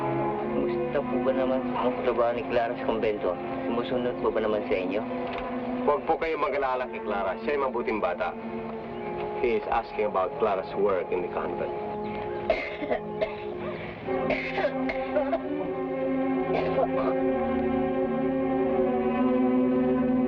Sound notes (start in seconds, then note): 1.1 people speaking in Tagalog; 12.5 woman coughing; 17.6 somber music